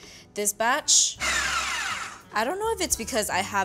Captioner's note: processor whirs